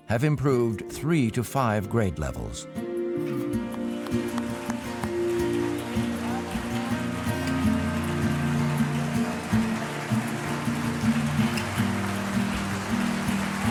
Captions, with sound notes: have improved three to five grade levels. (gentle music) (audience applauding)